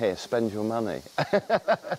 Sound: laughter

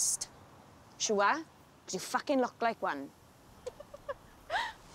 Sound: shiobhan laughs

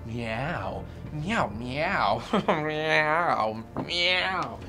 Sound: chuckles

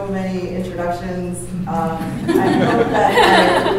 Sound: laughter

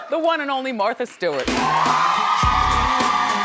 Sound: upbeat music; audience cheering

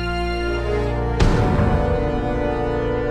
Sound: thump

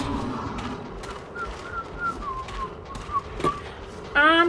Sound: whistles

